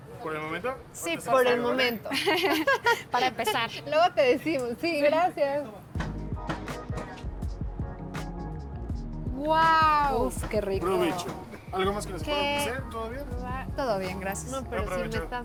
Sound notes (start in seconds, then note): 2.0 laugh